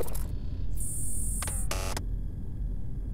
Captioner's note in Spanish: escanneando... BZZRT 👎